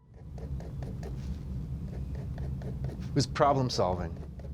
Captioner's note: pen scratches